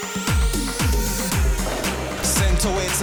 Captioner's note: mixed announcing and horns blowing; banging